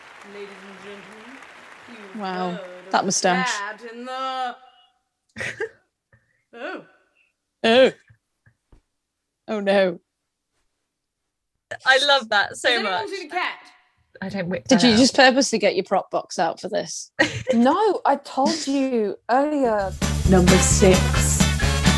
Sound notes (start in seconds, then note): 4.0 Sketch audio plays